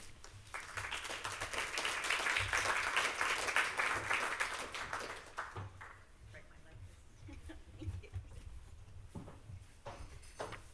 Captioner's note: applause